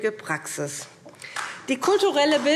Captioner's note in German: Beifall SPD